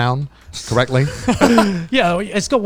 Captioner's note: guys laugh